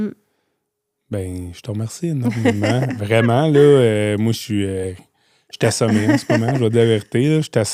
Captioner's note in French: rires